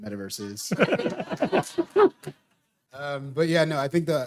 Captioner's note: all laughing